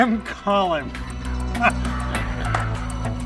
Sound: laughing

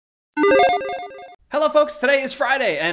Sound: playful video game chime resounds

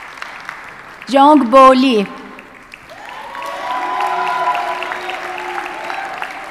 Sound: audience cheers and applauds

